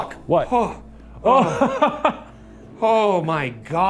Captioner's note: chuckles